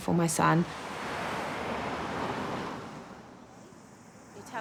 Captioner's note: traffic noises